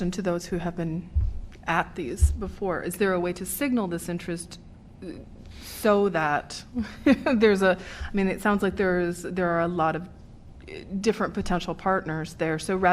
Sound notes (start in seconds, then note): 6.7 laughter